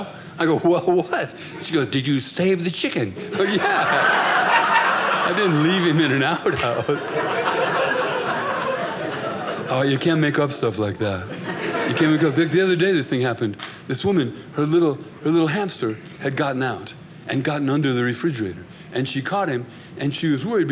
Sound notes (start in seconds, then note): 7.1 audience laughing